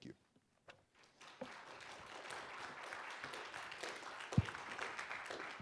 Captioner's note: audience clapping